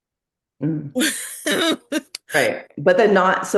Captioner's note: laughs